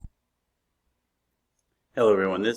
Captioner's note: silence